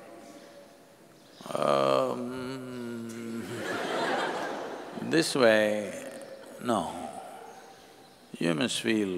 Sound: laughter

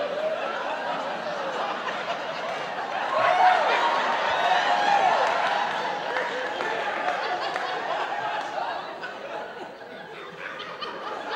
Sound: laughter

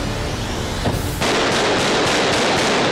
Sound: gunshots

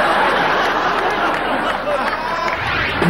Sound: audience laughing

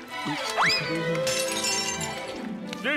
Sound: shattering

